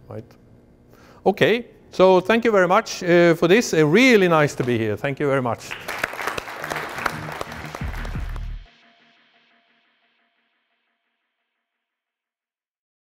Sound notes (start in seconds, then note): 5.5 applause; 8.8 light music